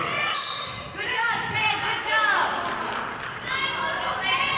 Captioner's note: whistle blows